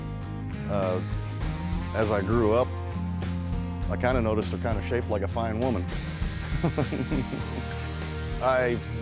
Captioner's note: laughs